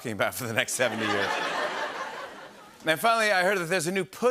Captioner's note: laughter